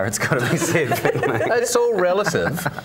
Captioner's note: laughter